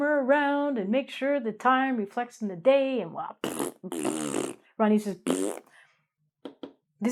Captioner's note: blows tongue